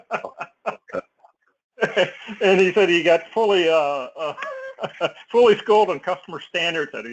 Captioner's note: laugh